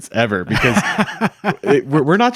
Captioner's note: laughing